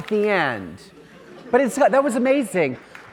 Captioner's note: audience laughing